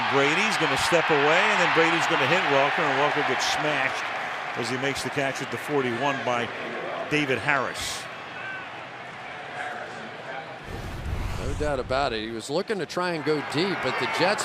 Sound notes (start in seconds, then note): 10.2 announcer on pa